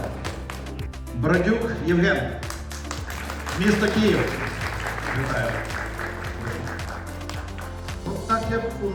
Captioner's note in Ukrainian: оплески